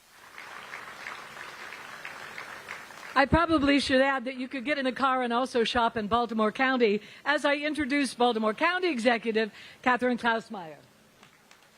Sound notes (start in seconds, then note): 2.6 applause